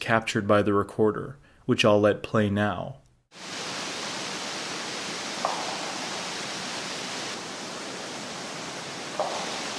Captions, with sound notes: captured by the recorder, which I'll let play now. (downpour trickling) (tree knocking)